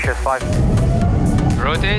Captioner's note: aeroplane engines roaring